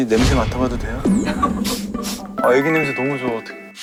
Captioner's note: sniff